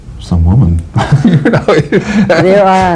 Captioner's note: laughing